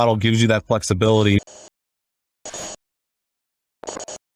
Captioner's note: static